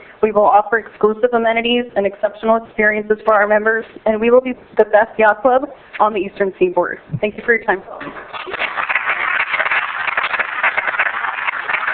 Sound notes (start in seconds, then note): 8.3 applause